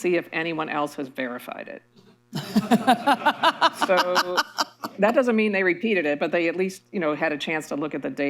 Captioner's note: laughter